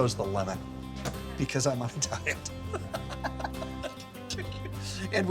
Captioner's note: laughing